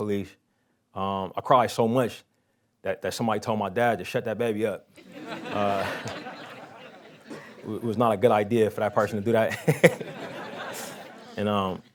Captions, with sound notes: police. I cried so much that somebody told my dad to shut that baby up. [laughing] It was not a good idea for that person to do that. [laughing]